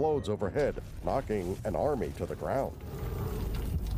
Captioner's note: thunderous crashing